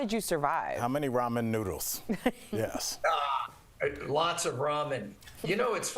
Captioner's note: laughter